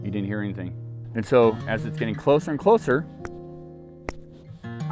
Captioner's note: thumping fists